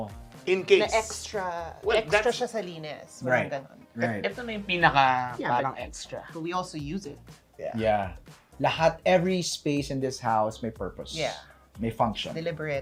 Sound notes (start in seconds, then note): none